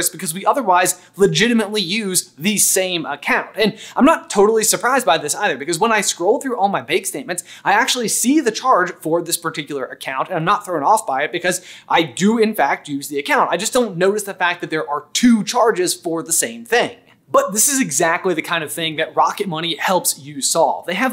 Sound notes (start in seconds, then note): none